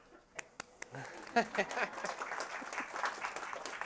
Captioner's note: applause